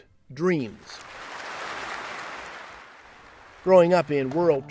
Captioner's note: applause